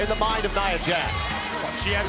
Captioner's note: crowd cheering